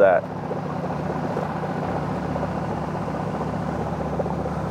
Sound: boat spluttering

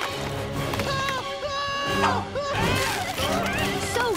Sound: screaming

